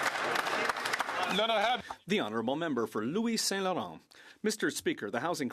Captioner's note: some Applause